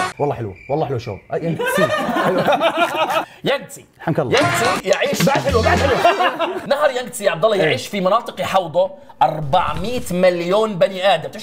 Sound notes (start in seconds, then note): 1.4 laughter; 4.4 laughs